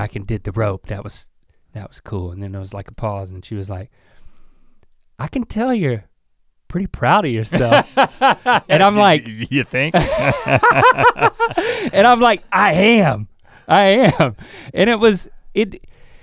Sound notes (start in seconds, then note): 7.5 laughs; 10.6 both laughing